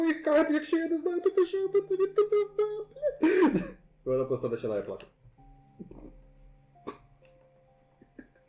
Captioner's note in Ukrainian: скиглення